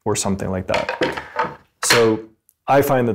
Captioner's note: wood clattering